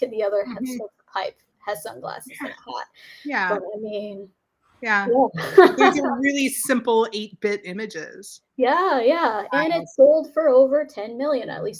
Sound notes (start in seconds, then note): 5.2 laughs